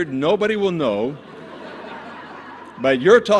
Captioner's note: laughter